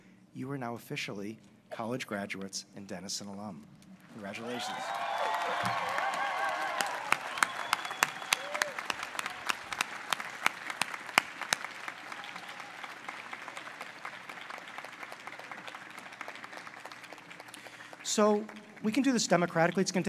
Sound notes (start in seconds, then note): 5.7 applause and cheers